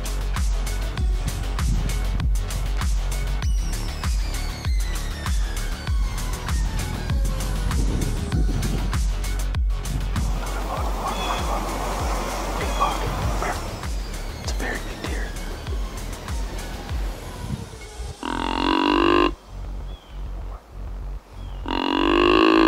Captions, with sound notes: (energetic techno music) Another buck. Buck, buck, buck. Big buck... It's a very good deer. (deer call bellows)